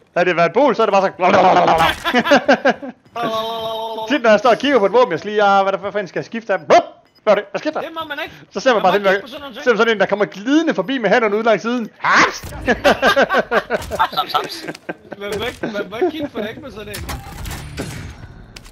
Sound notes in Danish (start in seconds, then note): 12.5 All laughing out, knowing its true